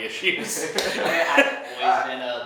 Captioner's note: laughing